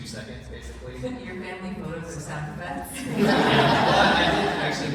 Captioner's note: laughter